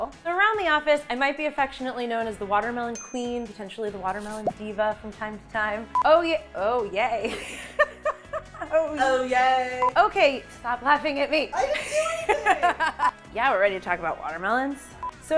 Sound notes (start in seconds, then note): 7.4 laughs; 11.5 laughs